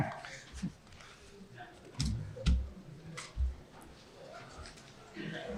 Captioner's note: attendees chattering faintly